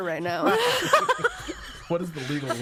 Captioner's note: all laughing